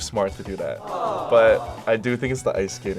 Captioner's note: crowd